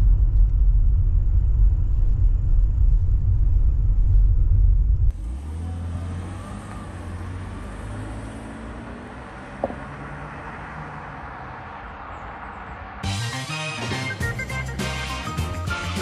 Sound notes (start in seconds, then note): 5.1 sounds of launching; 13.0 theme tune playing